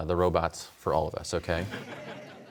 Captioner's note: audience laughs